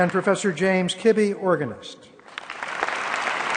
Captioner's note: applause